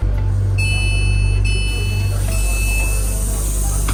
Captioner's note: train door closing